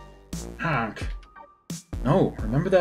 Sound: honk!

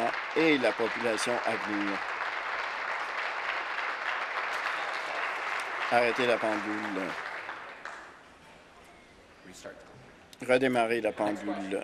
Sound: applause

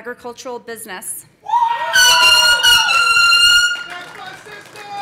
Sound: audience cheering; audience applauding

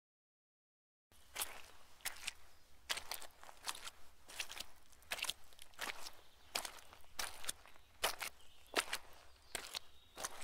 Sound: sound of footsteps

